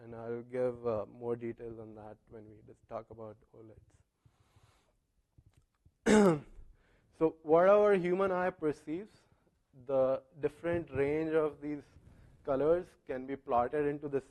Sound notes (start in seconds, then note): 6.0 cough